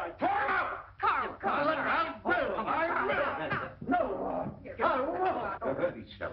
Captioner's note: confused shouting